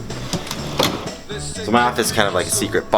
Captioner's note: door latch clinking